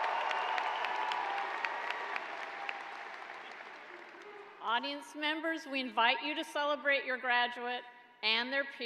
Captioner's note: cheers and applause